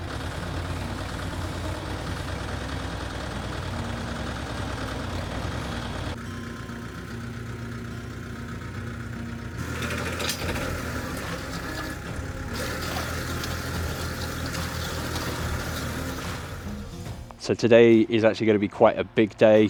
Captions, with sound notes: (engine revving) So today is actually going to be quite a big day.